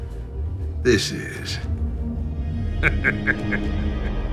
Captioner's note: laughs